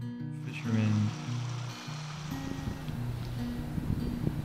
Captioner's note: water rushing